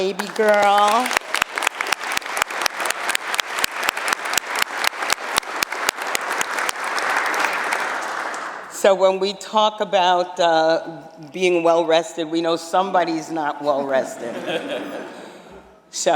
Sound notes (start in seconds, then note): 5.4 applause